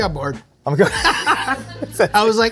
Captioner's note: they laugh